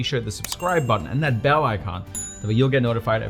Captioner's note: bell chimes